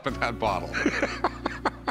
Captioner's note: laughs